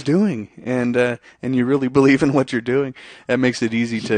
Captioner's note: chuckles